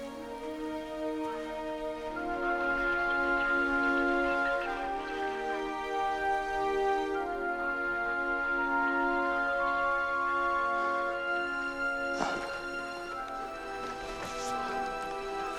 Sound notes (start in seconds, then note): 10.6 sighs